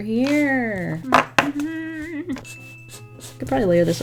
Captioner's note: hums